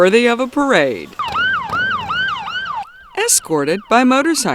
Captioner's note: motorcycle siren